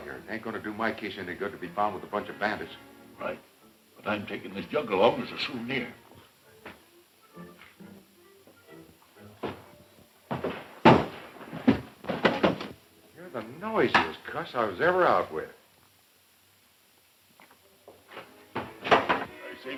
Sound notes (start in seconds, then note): 10.3 thumps loudly; 18.5 thumps